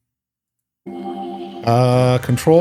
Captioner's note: bell rings